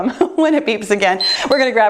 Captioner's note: timer beeps